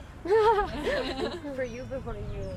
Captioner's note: laughter